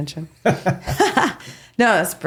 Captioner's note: both laughing